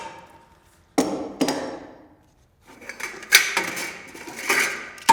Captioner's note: equipment clangs